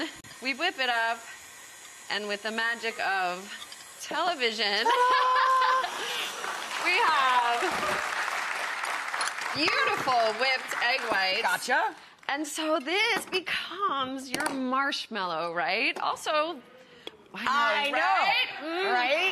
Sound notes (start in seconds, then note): 4.7 Amanda laughs; 5.8 audience applauds